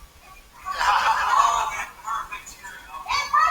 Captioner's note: laughter